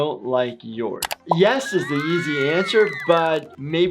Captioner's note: crowd cheers